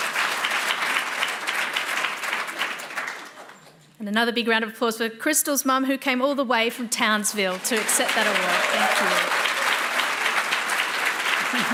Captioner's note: applause